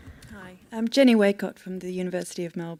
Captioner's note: voiceover